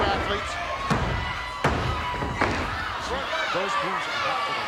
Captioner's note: hand thudding